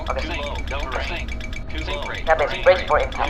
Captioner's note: interphone disconnected